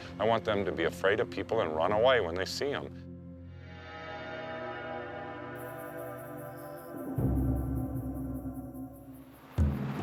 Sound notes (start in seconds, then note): 3.6 soft dramatic music; 5.6 insects chittering